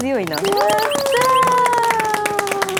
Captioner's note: pat pat